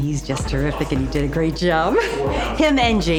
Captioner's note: chuckles